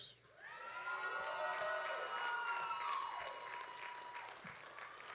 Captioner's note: audience cheering